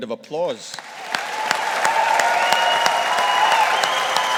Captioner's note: audience applauding